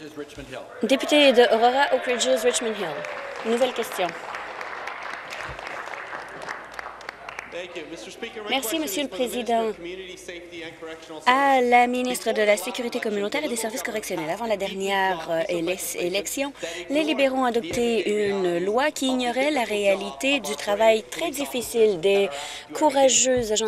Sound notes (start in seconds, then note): 4.4 applause; 5.2 cheers